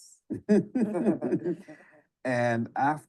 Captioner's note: all chuckling